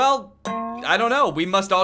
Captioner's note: boing